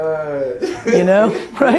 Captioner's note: laughs